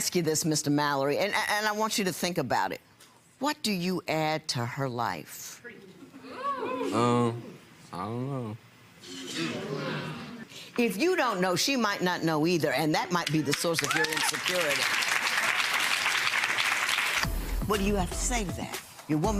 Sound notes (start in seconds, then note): 15.8 audience applauding